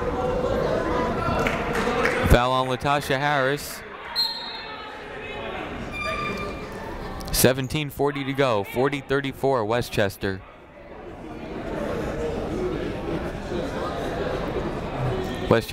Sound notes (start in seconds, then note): 4.2 whistle tweeting; 10.8 people talking in the crowd